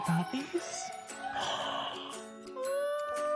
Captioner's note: puppies yipping; gasps